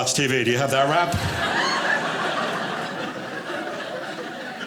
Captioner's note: audience laughing